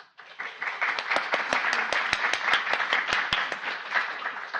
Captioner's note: audience applauding